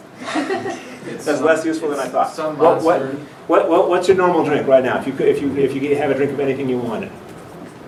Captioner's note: laughing